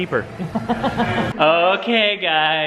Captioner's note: laughs